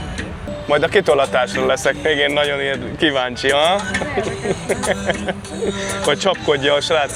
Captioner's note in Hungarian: nevetés